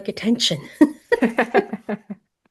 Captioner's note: laughter